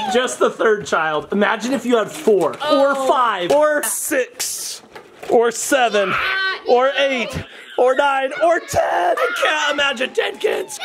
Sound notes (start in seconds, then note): 5.8 people exclaiming